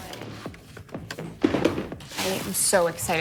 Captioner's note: plastic container rattles